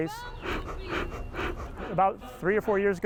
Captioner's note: puffing